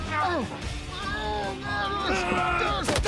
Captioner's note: struggling; fighting continues